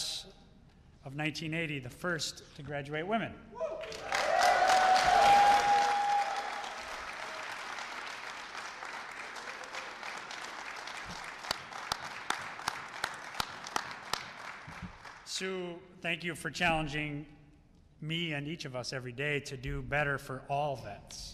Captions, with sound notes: of 1980, the first to graduate women. [Applause and Cheers] Sue, thank you for challenging me and each of us every day to do better for all Vets